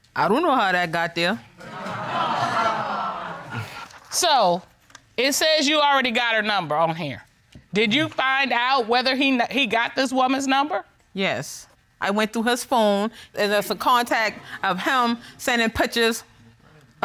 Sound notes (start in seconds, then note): 1.6 audience titters